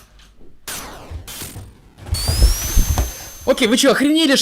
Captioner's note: door opening; footsteps